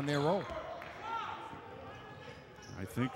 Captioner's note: yelling